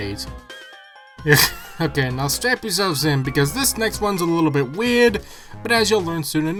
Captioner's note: inaudible chuckle